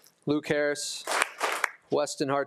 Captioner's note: attendees applauding